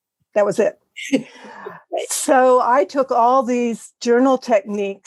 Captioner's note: laugh